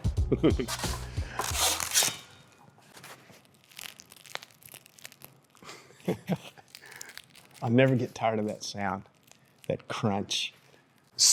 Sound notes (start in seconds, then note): 0.2 chuckles; 3.5 loaf crunching; 5.6 chuckles